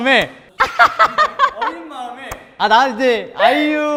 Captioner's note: ahahahaha